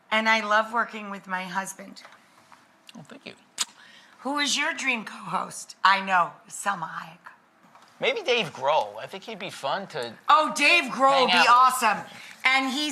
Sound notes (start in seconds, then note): 3.5 kiss